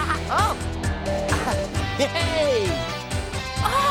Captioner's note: laughs